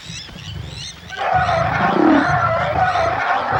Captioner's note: elephant wails